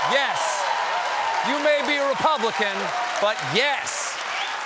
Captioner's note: cheers and applause